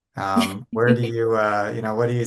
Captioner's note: chuckles